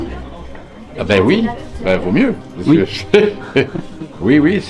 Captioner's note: laugh